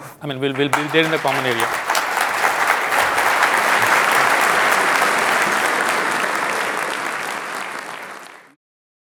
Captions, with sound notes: - And we will be there in the common area. (applause)